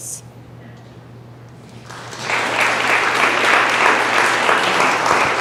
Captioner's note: audience applause